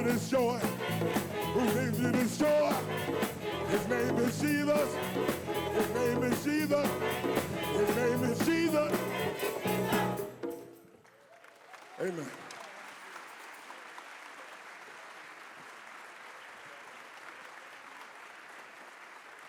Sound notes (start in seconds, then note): 12.9 applause